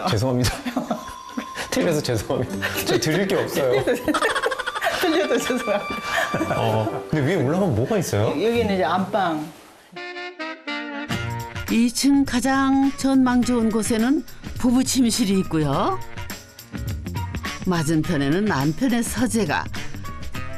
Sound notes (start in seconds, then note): 4.0 hahahahaha